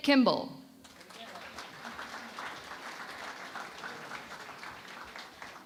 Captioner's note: applause